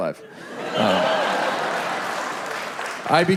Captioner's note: audience laughs and applauds